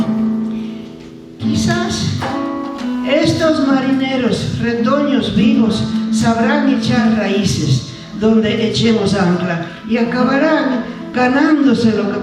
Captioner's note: speaking spanish